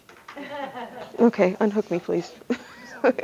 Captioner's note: audience laughter